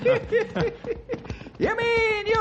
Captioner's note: laughing